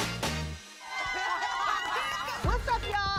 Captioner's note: upbeat music; girls cheering